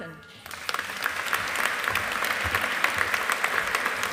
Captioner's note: audience applauding